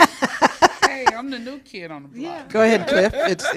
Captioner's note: laughter; laughter